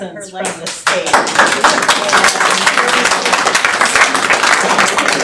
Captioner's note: audience applauding